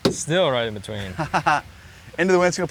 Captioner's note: laughs